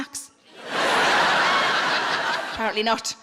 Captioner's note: audience laughing